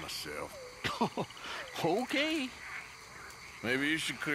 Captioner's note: laughs